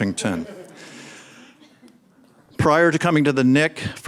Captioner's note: audience laughs